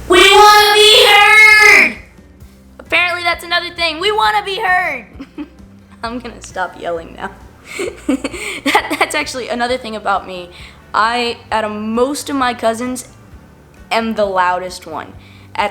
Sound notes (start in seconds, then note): 5.2 laughs